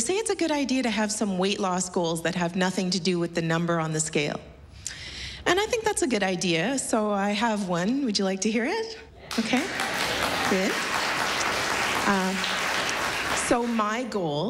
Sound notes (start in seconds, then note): 9.2 applause